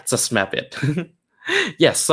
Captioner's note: chuckles